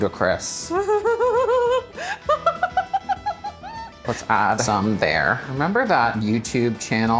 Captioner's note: laughing